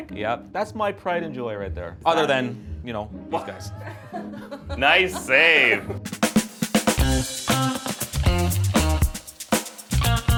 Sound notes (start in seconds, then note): 4.8 upbeat funk music; 4.8 laughing